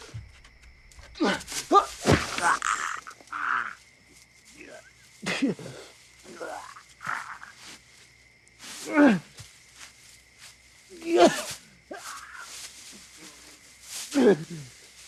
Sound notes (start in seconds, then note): 0.0 grunting and groaning; 1.0 groaning